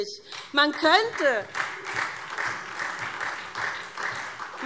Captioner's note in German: Beifall SPD - Widerspruch CDU und BÜNDNIS 90/DIE GRÜNEN